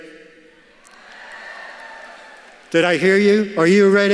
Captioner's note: graduates shout